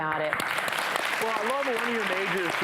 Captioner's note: audience applauds